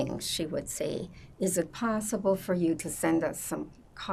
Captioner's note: none